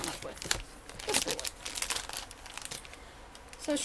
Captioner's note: plastic crinkling